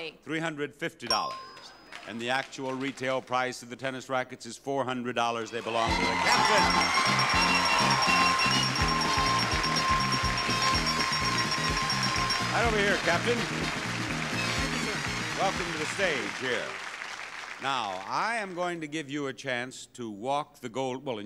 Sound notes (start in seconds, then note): 7.5 audience cheering; 7.5 exciting music